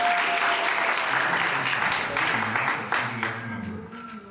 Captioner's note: audience applauding